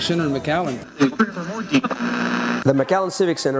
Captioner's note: radio static